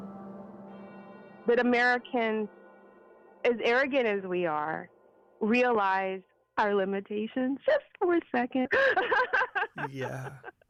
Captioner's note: laughs